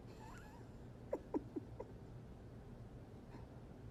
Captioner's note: chuckling